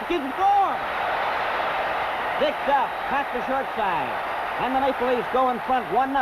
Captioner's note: crowd cheers